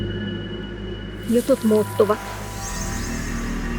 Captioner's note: speaks in Muinein language